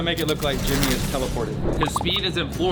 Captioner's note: Jimmy buzzes